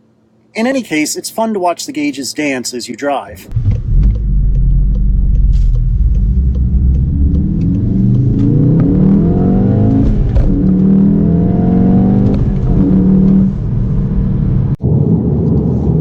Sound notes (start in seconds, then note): 6.0 loud engine noise; 13.0 soft engine noise